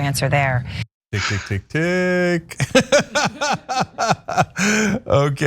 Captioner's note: laugh